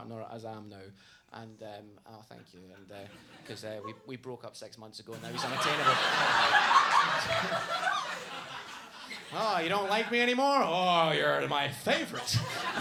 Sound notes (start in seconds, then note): 7.7 audience laughs; 11.8 audience laughs